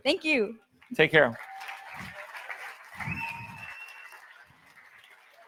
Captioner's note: audience applauds